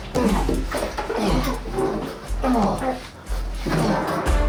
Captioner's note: grunting